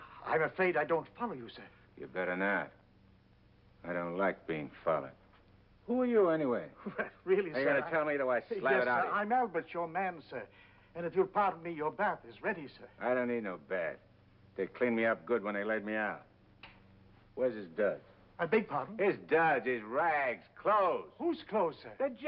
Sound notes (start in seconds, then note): 6.8 chuckles